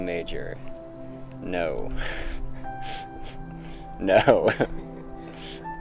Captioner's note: laughs